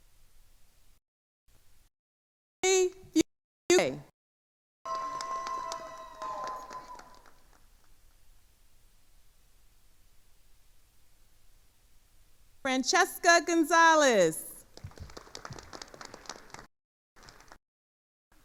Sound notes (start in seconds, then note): 4.8 attendees cheering and applauding; 14.7 attendees applauding